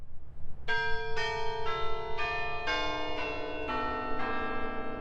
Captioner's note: bells pleasantly chiming